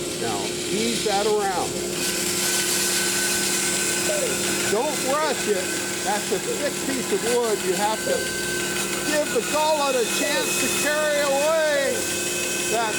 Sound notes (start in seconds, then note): 0.0 humming from machine; 2.1 machine buzzes